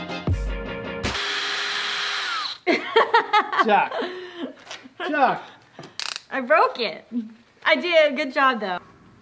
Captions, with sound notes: - (drilling) (laugh) - Chuck. Chuck. - I broke it. I did a good job, though.